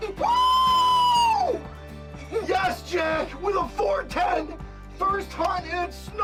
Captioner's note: screams